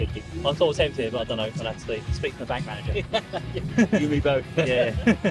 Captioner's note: laugh